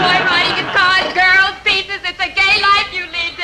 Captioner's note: audience chuckling